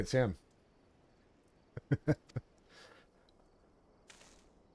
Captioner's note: laughs